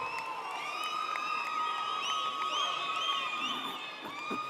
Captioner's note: audience cheering